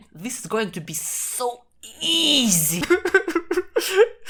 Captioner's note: crying